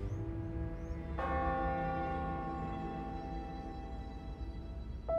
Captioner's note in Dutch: church bell ringing; mystical piano music